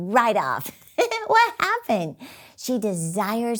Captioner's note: laughs